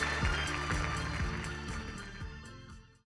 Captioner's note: applause